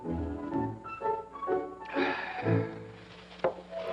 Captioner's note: satisfied sigh